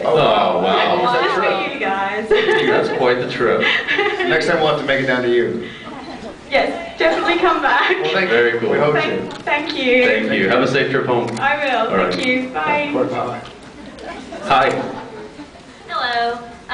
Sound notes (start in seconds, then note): 2.3 laughs; 5.7 laughs